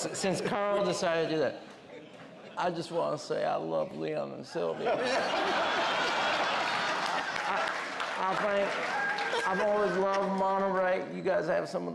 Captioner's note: laughter